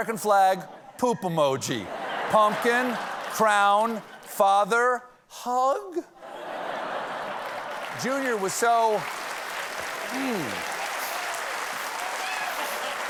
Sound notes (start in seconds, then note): 6.2 laughter; 7.1 applause